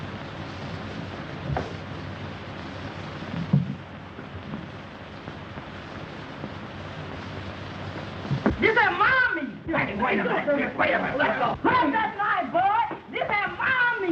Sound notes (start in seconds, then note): 9.4 scuffling